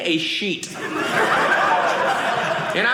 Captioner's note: audience laughing